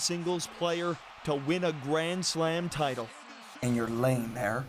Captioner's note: cheers and Applause